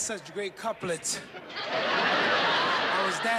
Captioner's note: laughter